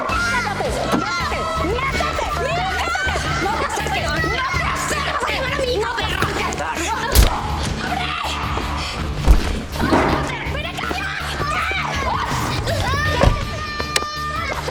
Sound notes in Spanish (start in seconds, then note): 7.8 gritos